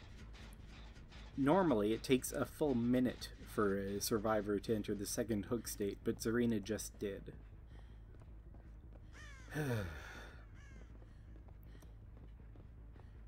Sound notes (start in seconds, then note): 9.5 sigh